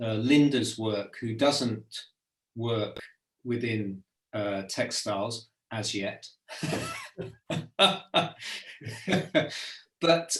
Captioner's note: laughs